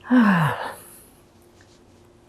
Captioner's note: sighing